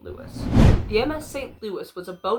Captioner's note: woosh